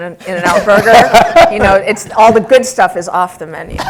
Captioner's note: laugh